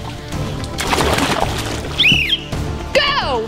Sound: splash

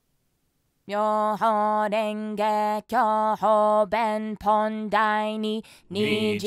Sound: chanting words on screen

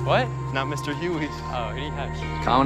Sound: laughs

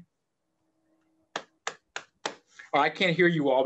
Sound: applauds

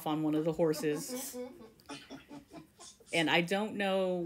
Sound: various laughter

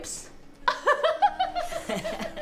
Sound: laughter; mocking laughter

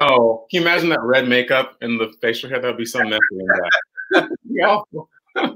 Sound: laughs

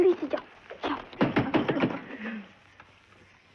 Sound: knock On Door

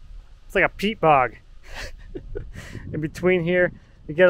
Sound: laughs

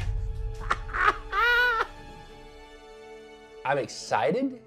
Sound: laughs excitedly

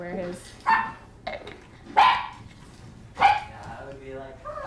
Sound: dogs barking

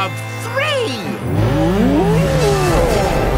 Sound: roaring

